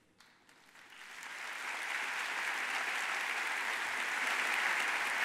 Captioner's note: audience applauds